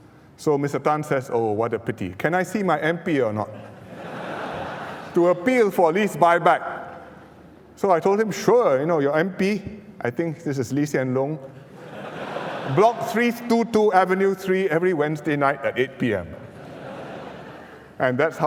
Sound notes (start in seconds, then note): 11.6 laughter